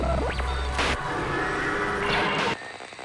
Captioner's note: spooky electronic noises and distant laughter